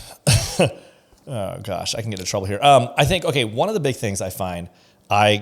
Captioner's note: laughs